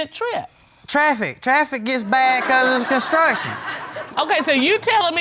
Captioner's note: audience laughing